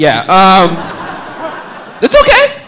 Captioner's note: audience laughing